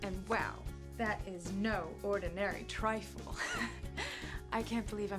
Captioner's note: laughs